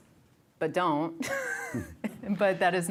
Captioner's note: chuckling